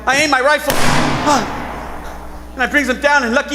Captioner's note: gunshot booms